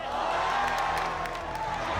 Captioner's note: cheering